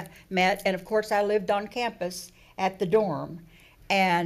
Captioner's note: none